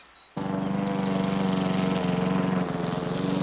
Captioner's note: grass mower whirring